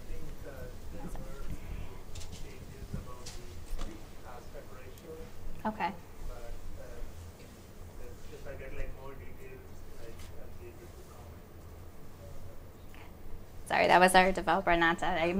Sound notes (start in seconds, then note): 2.6 speaking off mic; 7.7 man speaking off mic